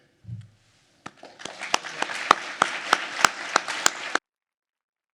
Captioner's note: everyone applauding